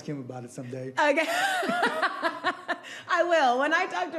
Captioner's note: laughing